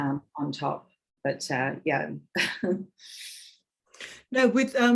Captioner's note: woman chuckling